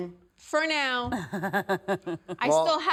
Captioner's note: laughing